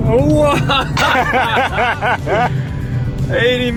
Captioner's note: both laugh